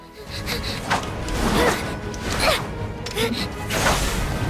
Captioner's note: battle grunts